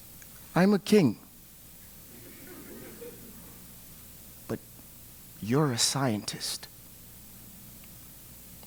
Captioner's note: laugh